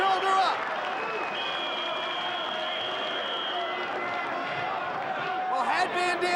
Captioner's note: audience applauding; whistle blowing